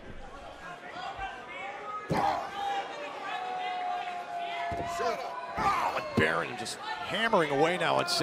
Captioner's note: crowd chatter